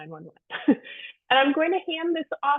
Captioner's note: chuckles